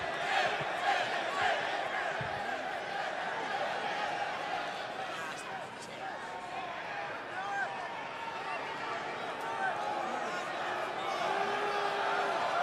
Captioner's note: crowd cheering